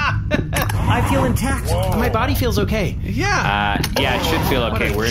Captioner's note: laughing; excited